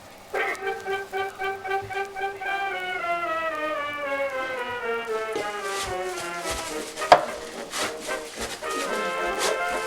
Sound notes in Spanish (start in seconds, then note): 7.0 plop